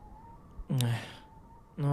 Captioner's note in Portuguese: sigh